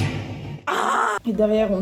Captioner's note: aaaaah; emotional chicken scream